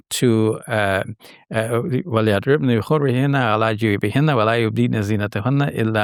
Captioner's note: speaking in Arabic